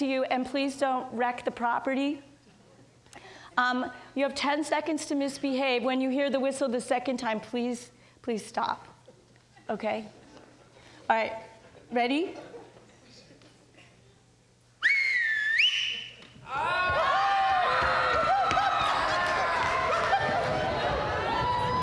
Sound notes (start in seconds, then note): 14.8 person whistles; 16.4 audience clamors; 19.8 audience laughs